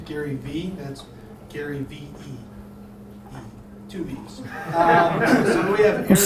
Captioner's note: audience laughter